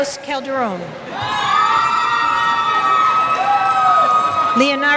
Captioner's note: cheers